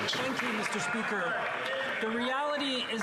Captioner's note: some Applause